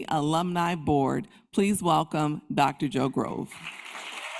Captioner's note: applause